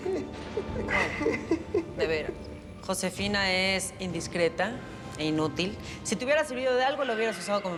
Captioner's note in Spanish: risa nerviosa de felipe